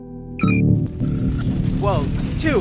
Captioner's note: none